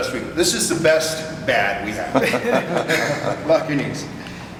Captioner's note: all chuckle